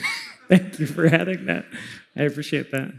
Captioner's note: laughs